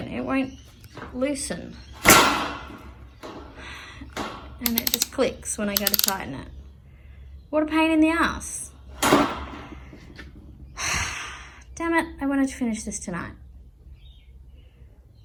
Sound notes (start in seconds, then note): 5.7 drill chuck clicks; 10.8 sighs heavily